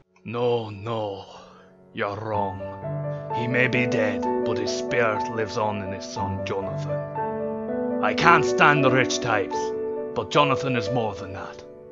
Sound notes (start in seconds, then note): none